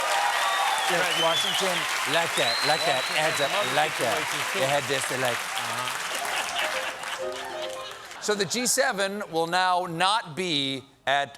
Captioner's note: cheers and applause